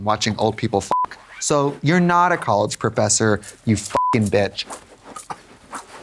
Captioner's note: beep; beep